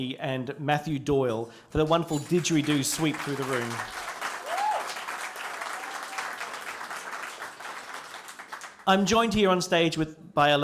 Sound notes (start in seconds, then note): 5.6 applause